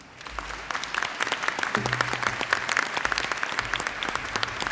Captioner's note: audience applauds